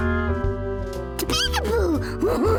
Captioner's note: laughing